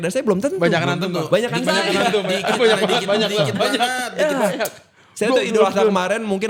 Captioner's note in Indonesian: tertawa